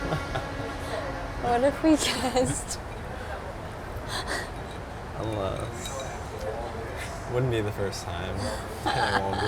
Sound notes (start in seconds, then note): 3.9 laughing; 8.6 laughing